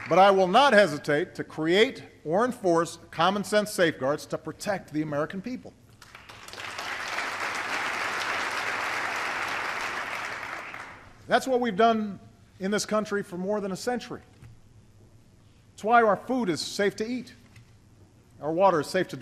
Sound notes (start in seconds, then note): 6.0 applause